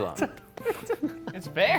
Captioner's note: laughing